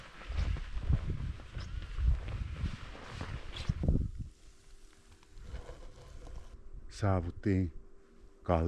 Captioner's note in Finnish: tuulen huminaa